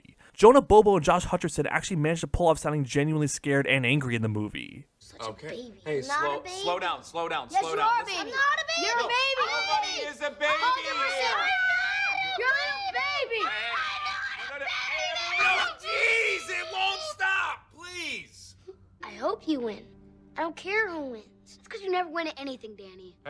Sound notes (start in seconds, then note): 7.4 shouting; 10.3 screaming; 13.7 shrieking